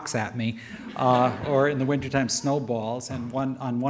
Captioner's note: audience laughter